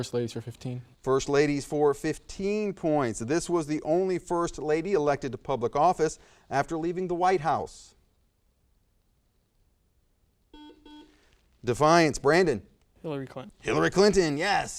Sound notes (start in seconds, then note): 7.6 buzzer noise